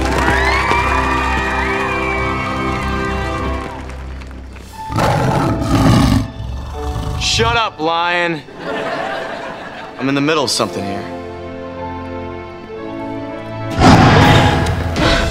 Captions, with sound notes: [cheering] [roaring] Shut up, Lion! I'm in the middle of something here.